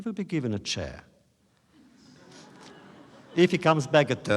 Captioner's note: laughter